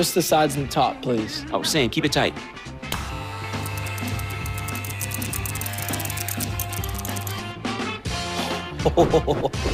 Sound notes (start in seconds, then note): 3.0 hair clipper buzzing